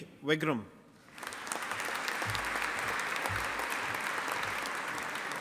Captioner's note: audience applauding